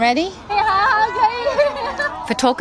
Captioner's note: crowd noise